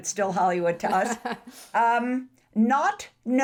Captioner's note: laughs